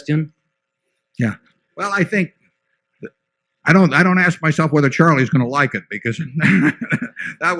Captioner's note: laughter